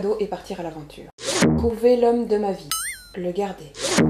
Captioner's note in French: ding